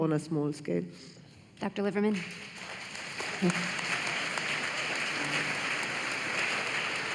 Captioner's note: applause